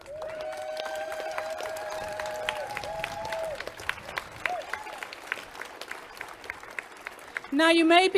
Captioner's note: clapping and cheering